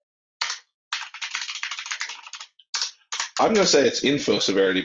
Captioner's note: keyboard keys clanking